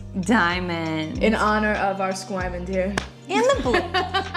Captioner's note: laughs